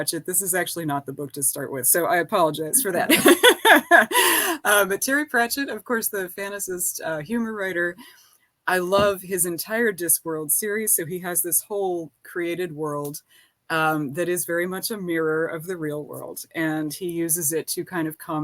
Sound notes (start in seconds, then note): 2.8 laughing